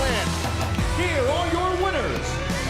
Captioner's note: bell